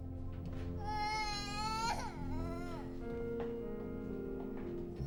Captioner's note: crying continues